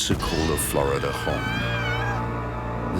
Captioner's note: screams